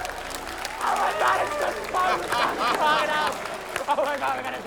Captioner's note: laughter, cheering, applause; laughter